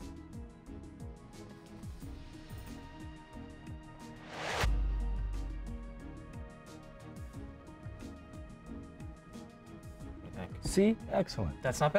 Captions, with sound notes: (mysterious music) (whoosh) (mysterious music) What do you think? See, excellent.